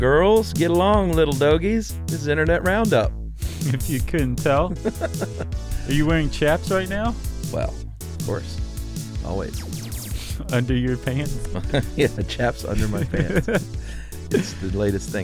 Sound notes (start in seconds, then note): 4.5 laughs; 12.7 laughs